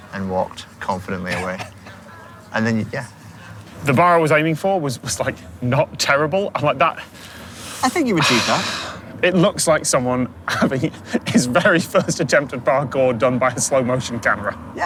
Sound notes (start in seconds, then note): 0.9 chuckles; 10.9 chuckles